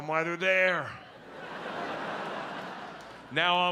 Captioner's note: audience laughs